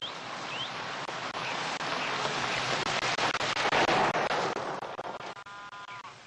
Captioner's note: horn honks